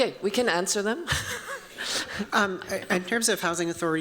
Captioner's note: chuckling